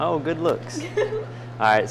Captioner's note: chuckles